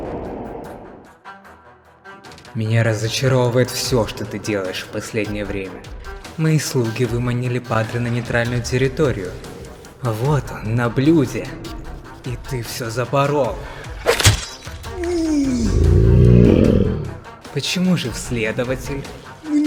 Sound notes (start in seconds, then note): 14.0 sword strike; 14.9 a cry of pain